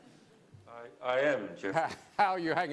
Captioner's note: laughter